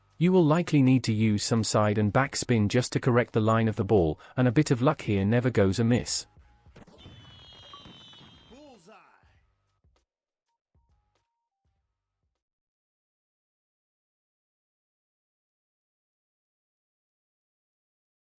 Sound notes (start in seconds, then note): 6.8 fireworks popping; 7.6 achievement bloop